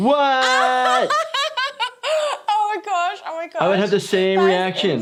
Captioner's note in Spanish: risas